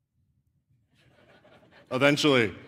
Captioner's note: laughter